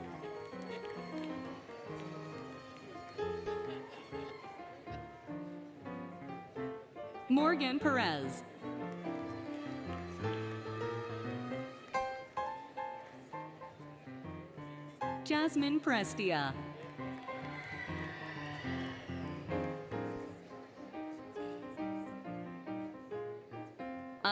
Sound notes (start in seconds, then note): 0.0 applause, Cheering, Music; 3.9 applause, Cheering, Music, Laughter; 8.5 applause, Cheering, Music; 16.5 applause, Cheering, Music